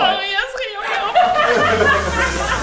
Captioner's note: Gelächter